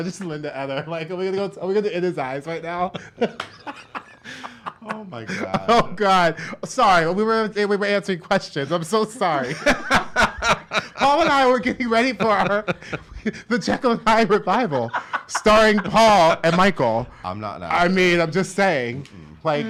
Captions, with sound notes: Is that Linda Eder? A new life. Oh, I just Linda Eder, like, are we gonna go is it in his eyes right now? (both laugh) Oh god, sorry. Oh my god. We were answering questions. I'm so sorry. (laughs) Paul and I were getting ready for the Jekyll and Hyde revival starring Paul and Michael. I'm not Eder. I mean, I'm just saying.